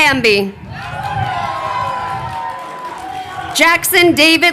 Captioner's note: crowd cheering